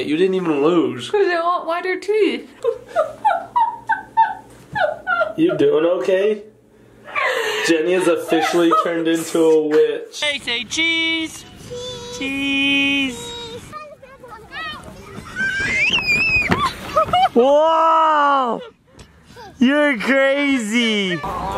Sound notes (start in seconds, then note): 2.6 laughing; 15.4 screaming